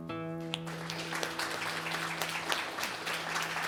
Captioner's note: applause